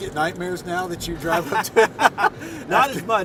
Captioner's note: laughs